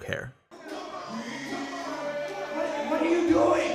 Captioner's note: energetic hip hop music; crowd jeering